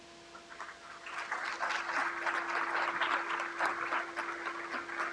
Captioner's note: crowd applauds